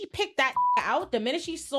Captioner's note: beep